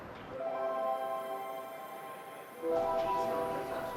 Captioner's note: chiming tone